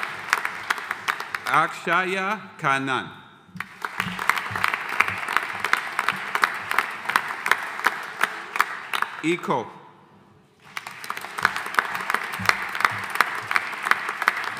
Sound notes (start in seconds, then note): 3.6 audience applauding; 10.6 audience applauding